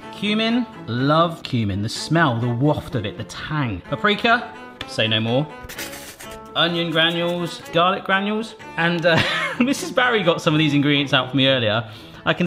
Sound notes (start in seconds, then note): 5.6 loud sniffing; 9.1 laughs